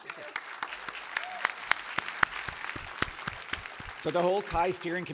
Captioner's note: applause